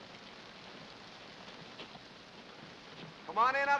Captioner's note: rain patters